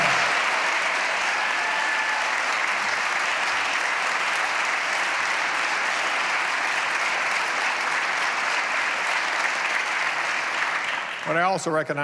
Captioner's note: applause